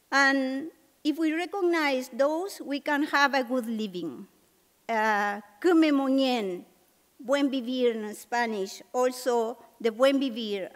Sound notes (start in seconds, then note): 6.7 spanish; 9.6 non-english